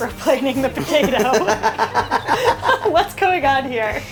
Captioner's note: both laughing